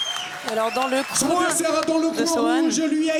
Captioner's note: applause